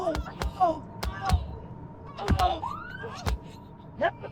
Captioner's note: man grunting; siren blaring; feet kicking